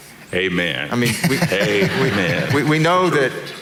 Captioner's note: audience laughing